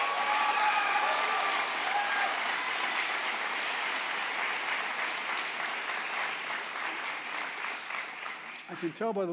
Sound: applause

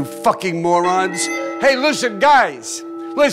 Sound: alarm continues

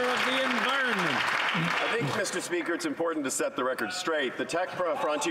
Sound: some Applause

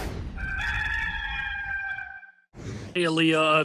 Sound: cock crowing

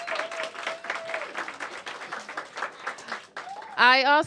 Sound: applause

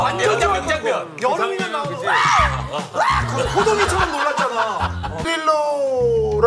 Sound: Jiwoo's scream

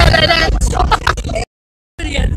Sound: laugh

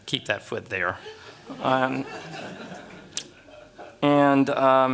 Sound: laughter

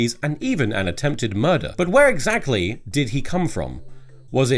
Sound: none

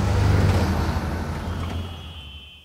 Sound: truck rumbling

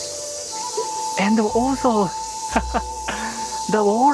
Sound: chuckle

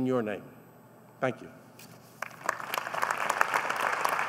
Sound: applause

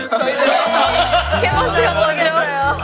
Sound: crying

